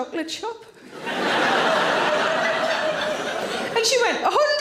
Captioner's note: audience laughing